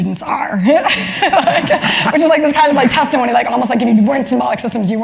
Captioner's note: laugh